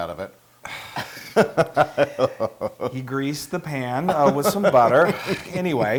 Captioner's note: laugh